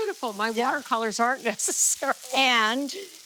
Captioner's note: laughs